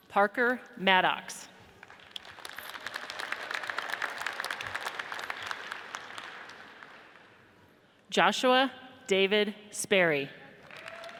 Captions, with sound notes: Parker Maddocks, (audience applauds) Joshua David Sperry,